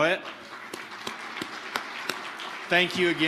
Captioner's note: audience applauding